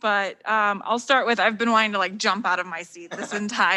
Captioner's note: laughing